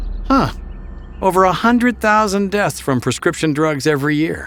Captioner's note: voiceover